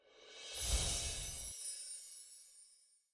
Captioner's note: chimes ring